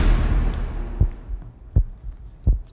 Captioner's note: intense music; lights click on; heart beats